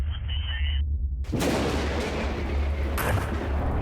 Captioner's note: sudden crash of thunder; missile launching